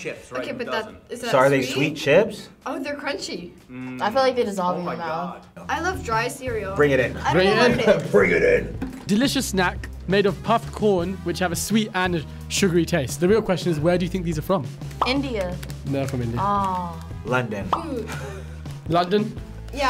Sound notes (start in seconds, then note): 7.3 laughs